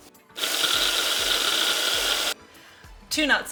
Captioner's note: processor whirring